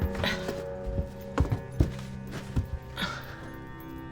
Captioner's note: Claire grunts; suspenseful music